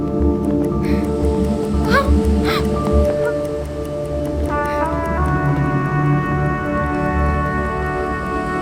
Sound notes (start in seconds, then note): 0.5 bomb ticking